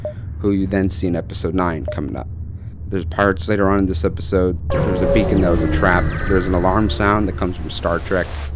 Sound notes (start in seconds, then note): 4.7 alarm noise